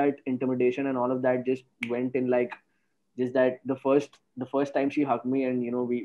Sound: snaps finger

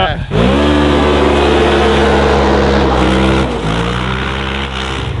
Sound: engine roars

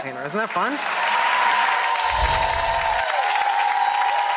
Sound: audience applauds

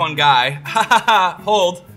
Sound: laughs

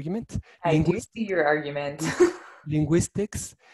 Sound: giggles

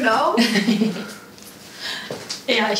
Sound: laughs

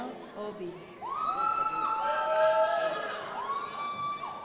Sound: crowd applauding

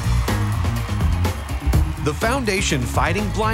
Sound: crowd cheering; energetic music

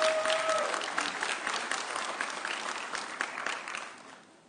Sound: audience cheering

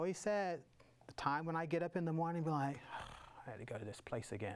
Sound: sighs

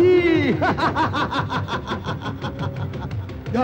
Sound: laughs

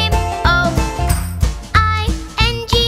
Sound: clap

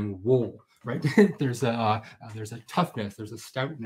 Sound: laughs

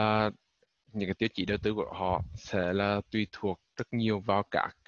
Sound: speaking vietnamese

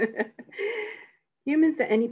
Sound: laughs

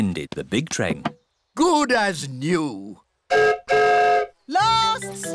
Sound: whistle blows

